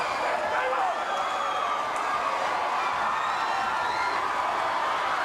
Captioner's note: crowd cheering